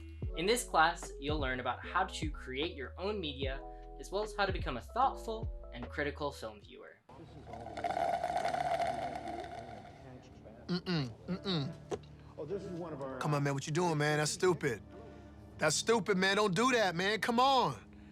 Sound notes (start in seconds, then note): 7.7 loud slurping